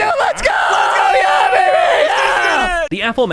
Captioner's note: celebratory yelling; more yelling